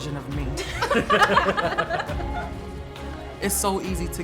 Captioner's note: all laughing